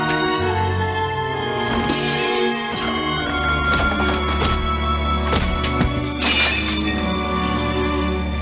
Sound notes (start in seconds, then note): 2.6 thuds; 6.2 glass breaks